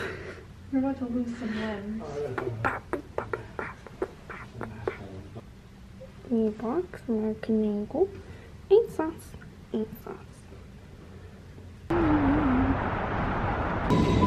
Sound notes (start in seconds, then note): 2.2 bad beatboxing